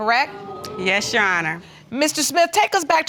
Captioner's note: audience exclaiming